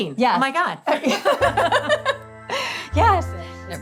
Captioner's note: both laughing